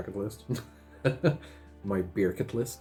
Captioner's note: laughs